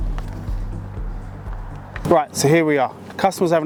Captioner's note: clothing rustling